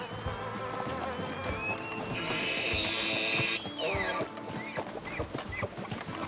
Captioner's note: stupid elk noises